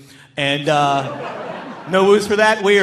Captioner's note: audience laughing